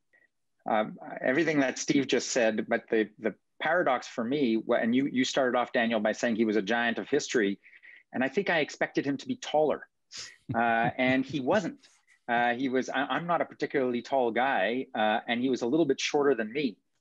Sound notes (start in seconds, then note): 10.4 chuckling